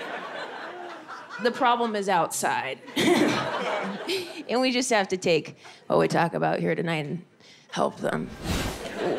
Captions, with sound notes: The problem is outside (laughs). And we just have to take what we talk about here tonight and help them.